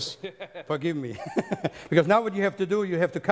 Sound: giggles

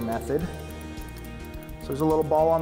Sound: fishing reel clicking

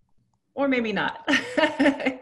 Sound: laughs

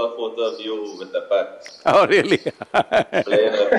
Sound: laughs

